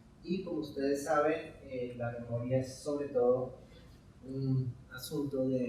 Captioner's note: speaking in Spanish